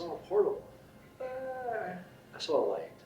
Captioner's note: groans